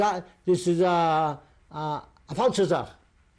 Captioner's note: non-english speech; non-english